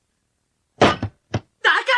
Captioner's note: SFX: door slams open